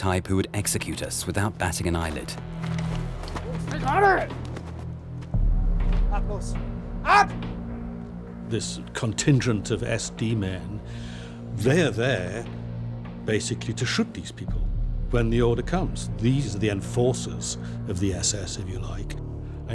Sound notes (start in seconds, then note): 3.6 yells; 6.0 speaks in foreign language